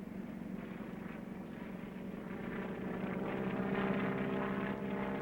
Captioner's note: plane engine running